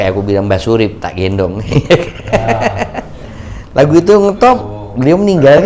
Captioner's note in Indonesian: tertawa